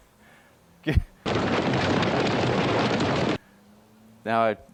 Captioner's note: horses galloping